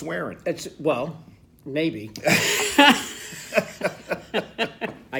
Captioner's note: laughing